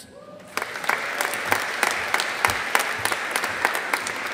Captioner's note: audience applauding